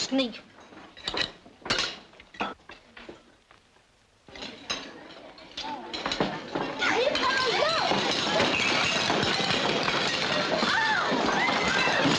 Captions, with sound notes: Blast that little sneak. [students shouting] [dishes clattering]